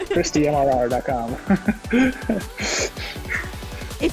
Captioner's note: laughs